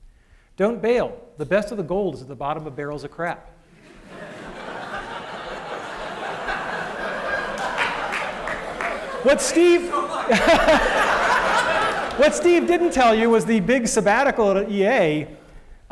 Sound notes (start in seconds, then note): 3.8 laughter